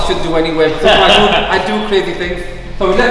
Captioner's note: laughs